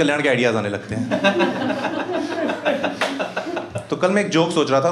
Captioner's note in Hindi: हँसना